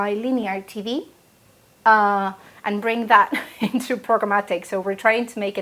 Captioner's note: laugh